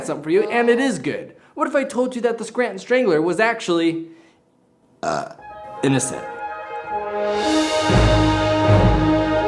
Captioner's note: burp; intro music plays